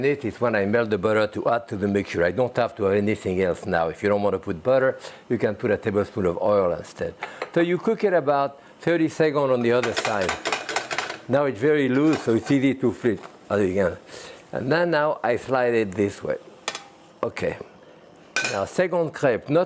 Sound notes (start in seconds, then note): 9.7 pan rattling